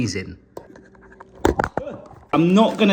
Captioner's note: camera falling